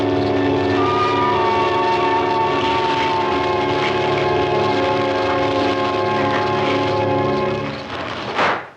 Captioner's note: fire crackling